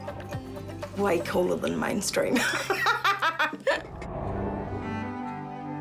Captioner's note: laughs